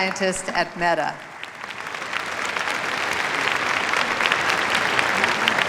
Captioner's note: applause